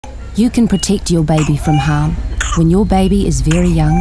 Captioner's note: A baby coughs in the background